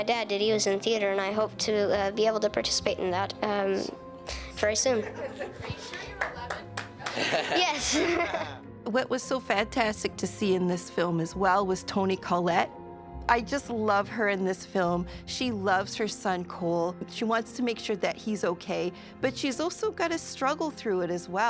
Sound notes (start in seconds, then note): 5.0 audience chuckles; 7.0 actors laugh